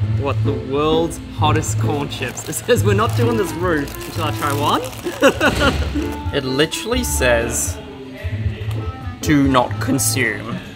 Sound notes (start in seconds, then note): 4.8 laughs